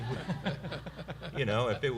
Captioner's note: laughter